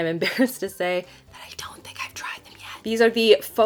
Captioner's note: whispers